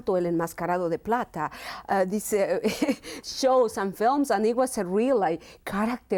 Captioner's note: laughs